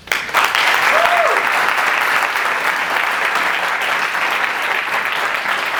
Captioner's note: audience cheers and applause